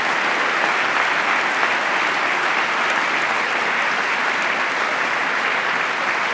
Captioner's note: applause